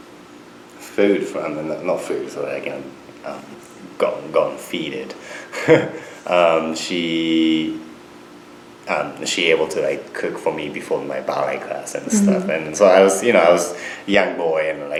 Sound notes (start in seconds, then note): 5.5 laughs